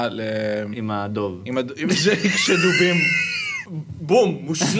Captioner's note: snickers